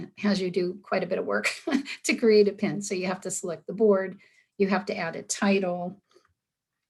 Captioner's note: giggle